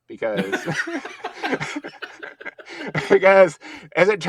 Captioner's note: both laughing